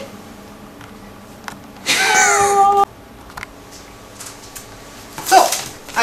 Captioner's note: chuckle